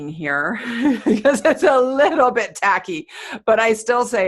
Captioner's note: laughing